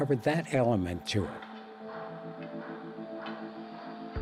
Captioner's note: clanking